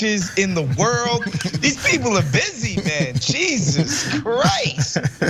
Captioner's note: laugh